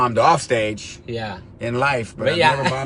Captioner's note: laughs